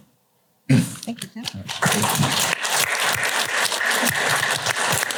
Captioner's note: applause